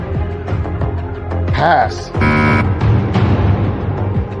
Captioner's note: buzzer sounds